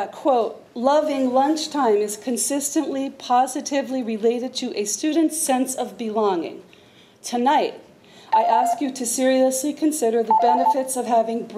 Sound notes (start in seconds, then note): 8.7 timer beeps